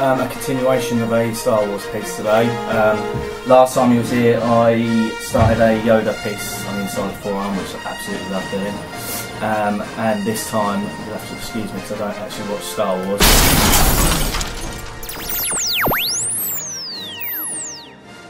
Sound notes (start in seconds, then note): 13.2 loud crash